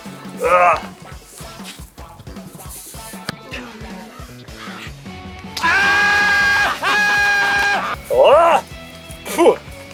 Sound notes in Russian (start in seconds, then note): 5.5 Кричит; 7.9 Выплёвывает снег